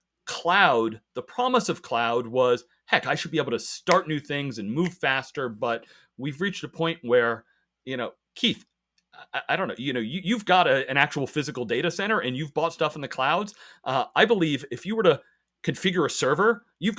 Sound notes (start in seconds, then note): 3.8 fingers snap